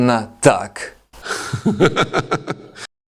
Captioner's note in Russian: Смех